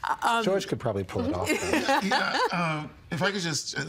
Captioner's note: all laughing